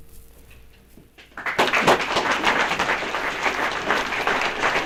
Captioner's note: applause